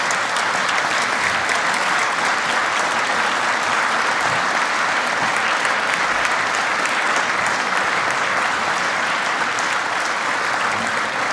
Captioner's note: applause